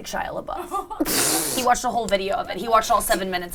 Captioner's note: laughing